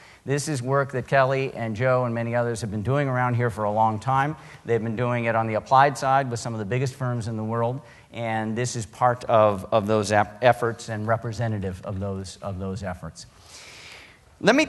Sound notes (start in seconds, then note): none